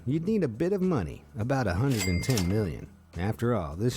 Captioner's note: cash register ringing